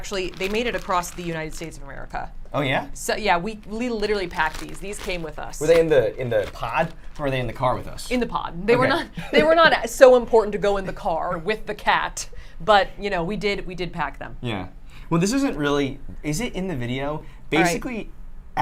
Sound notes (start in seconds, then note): 8.8 laughs